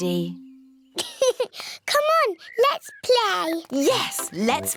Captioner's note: laughs